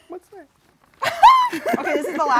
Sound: both laugh loudly

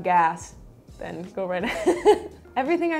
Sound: laughs

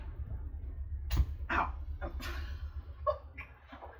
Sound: laughs

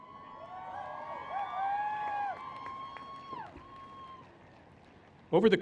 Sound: cheers

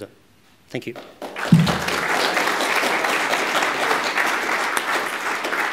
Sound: applause

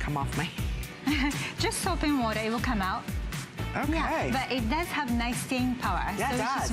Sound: laughter

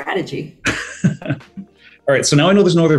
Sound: chuckles

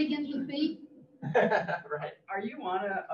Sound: laughs

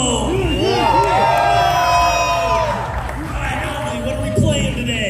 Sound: crowd cheers

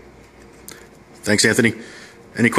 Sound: voiceover

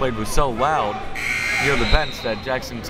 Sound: buzzer

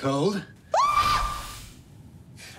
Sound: Fanny screams

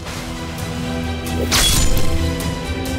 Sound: blade swishing

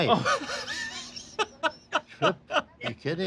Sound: laughing

